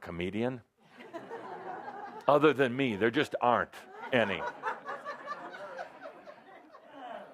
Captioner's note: laughter